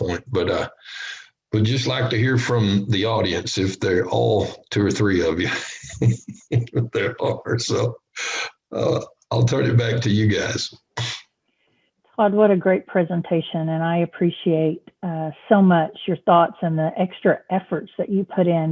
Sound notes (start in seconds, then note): 5.4 laughter